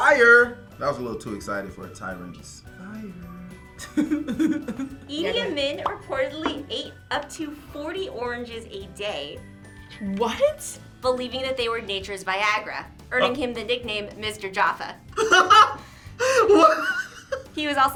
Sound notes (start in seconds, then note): 2.7 quietly; 3.8 laughs; 16.2 laughs